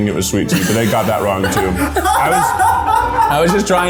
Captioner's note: laughs